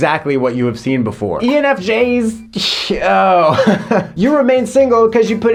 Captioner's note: laughing